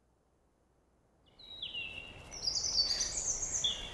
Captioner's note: birds sing